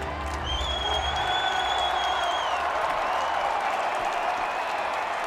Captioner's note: crowd cheers